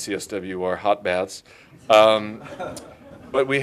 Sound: laughter

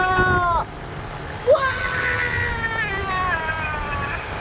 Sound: shouting

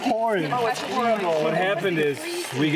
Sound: all chattering

